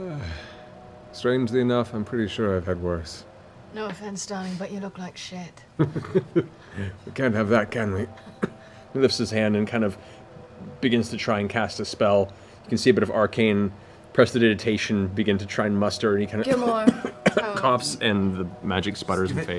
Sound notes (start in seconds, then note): 5.7 laughs; 8.0 coughs